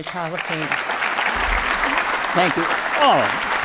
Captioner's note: applause